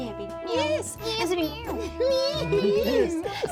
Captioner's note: laughter